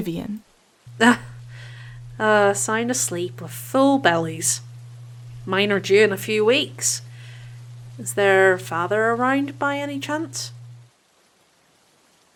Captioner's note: light laugh